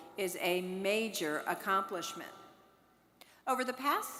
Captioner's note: none